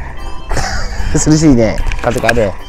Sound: laughs

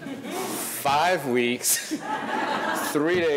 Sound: audience laughing; laughs; audience laughing

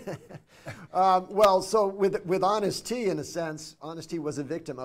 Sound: chuckles

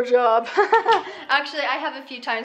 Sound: laughs

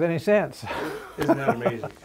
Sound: chuckles

